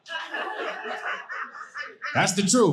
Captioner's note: audience laughing